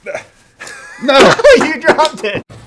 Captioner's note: laughter